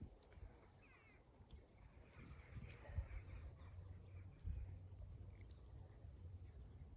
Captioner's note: distant jackdaw chatter